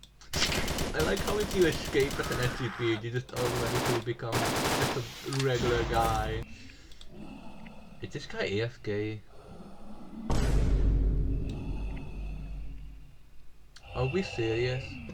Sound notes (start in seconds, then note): 0.3 gunshots.mp3; 10.3 vineboom.mp3